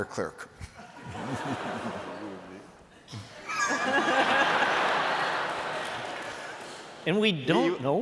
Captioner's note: laughter